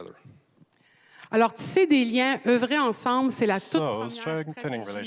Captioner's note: speaking French